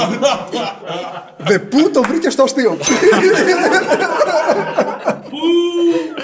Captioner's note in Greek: γέλια